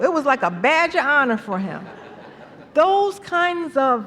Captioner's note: laughter